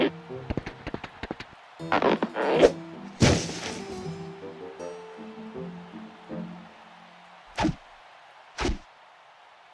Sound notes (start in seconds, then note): 1.4 falling noise; 4.4 distant cheers and applause